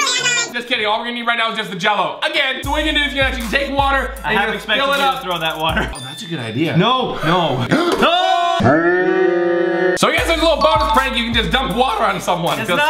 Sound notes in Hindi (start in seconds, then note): 8.0 चिल्लाना; 8.9 स्लो मोशन चिल्लाना